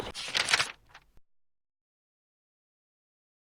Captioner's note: shuffling